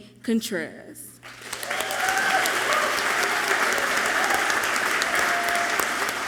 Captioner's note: audience clapping and cheering loudly